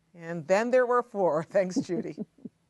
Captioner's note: laughter